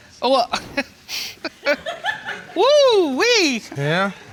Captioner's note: audience member giggles; chuckles